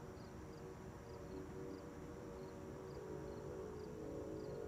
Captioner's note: crickets chirping